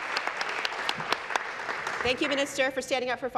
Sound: voice trailing; applause

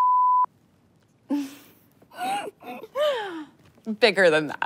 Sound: laughs

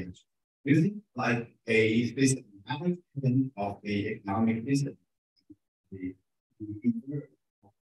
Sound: speaking faintly

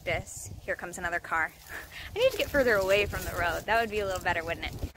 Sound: laughs

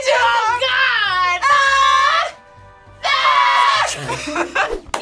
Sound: both scream

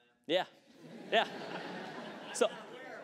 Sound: laughter

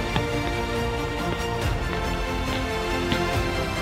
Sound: footsteps

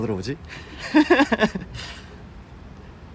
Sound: laughing

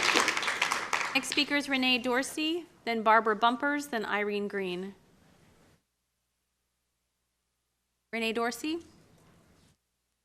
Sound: applause

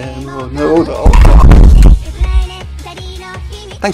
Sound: crashing into microphone

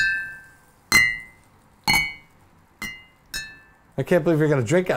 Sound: glass ringing different notes

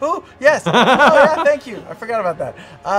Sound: laughing

